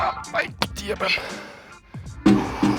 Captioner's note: cursing in Serbian